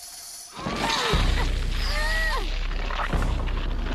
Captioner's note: all grunting